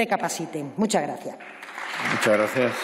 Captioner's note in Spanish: Aplausos